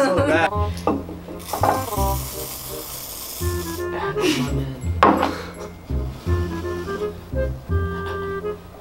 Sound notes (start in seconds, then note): 1.3 whipped cream noises